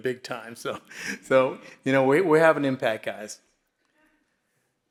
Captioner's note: laughs